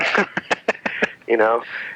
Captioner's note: laughing